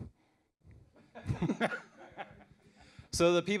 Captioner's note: laughter